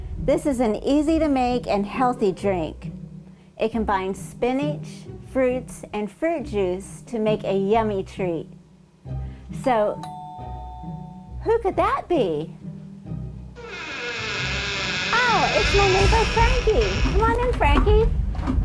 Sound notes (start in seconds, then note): 10.0 doorbell; 13.6 squeaking door